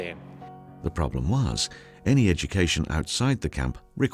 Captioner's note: voiceover